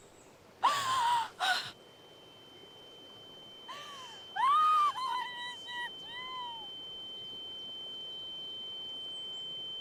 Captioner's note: crying